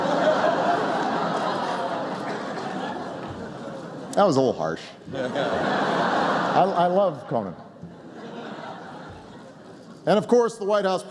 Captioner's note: crowd oohs